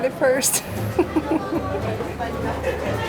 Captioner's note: chuckles